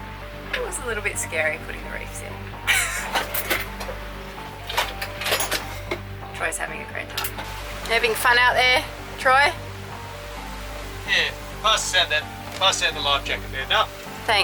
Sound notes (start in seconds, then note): 2.6 laughs